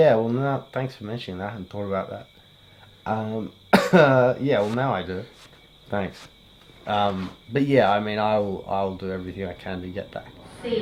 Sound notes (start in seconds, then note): 3.7 coughs